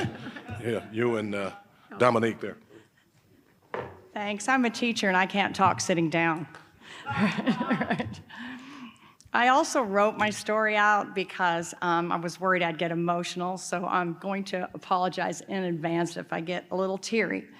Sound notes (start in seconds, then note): 0.0 laughing; 7.0 laughing